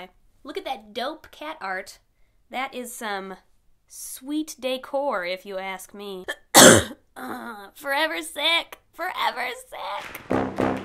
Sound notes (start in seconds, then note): 6.3 cough